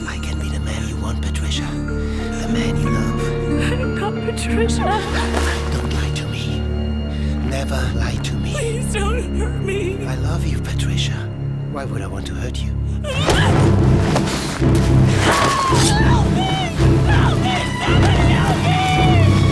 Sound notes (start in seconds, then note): 13.4 yells